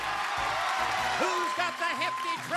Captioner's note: cheers and applause